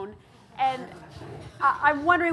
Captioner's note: audience chuckling